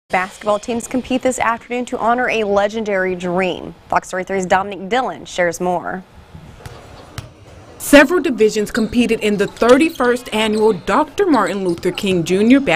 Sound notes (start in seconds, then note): 6.5 ball bouncing